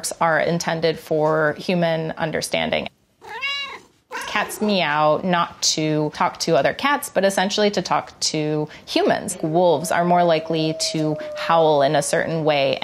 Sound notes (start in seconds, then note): 3.2 cat meowing